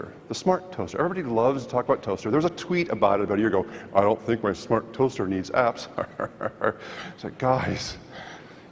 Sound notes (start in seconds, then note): 5.9 laughs